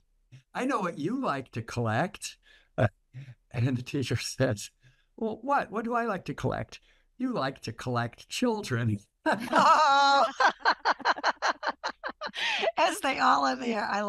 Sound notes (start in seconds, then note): 9.2 laughter